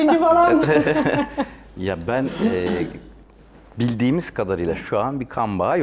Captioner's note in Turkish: kahkaha